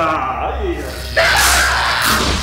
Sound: electricity

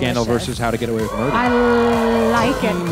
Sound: audience cheering

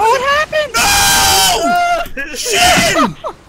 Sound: screams

